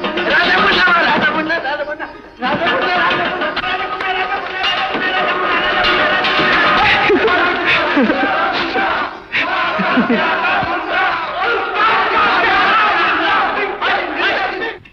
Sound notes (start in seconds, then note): 2.6 celebratory exclamations